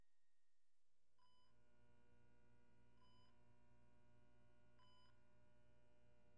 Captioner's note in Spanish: monitor cardíaco pitando